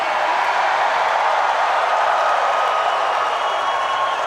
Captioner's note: crowd cheering